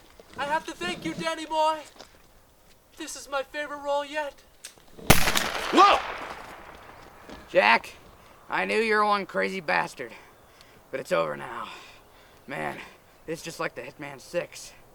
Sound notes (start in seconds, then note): 5.1 gunshot